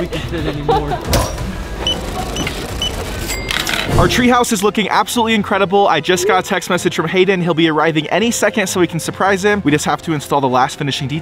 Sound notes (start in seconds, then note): 1.8 scanner beeping